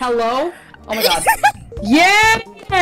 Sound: panicked laughter

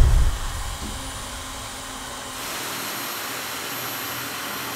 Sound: description whooshing

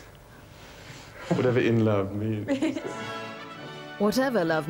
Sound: Diana giggling; regal music

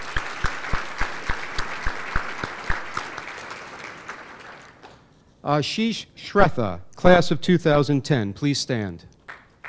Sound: applause; applause

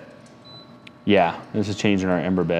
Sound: firebox beeping

